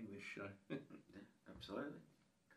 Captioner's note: laughing